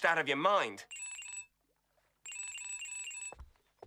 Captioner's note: phone ringing